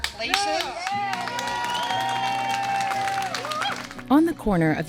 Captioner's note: audience cheering